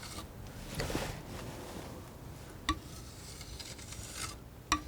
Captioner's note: tapping